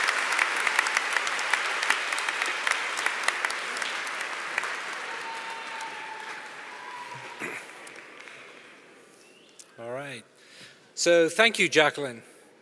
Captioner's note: applause